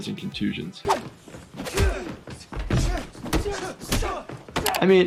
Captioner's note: men grunting